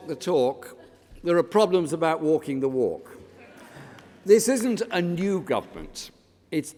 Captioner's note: laughter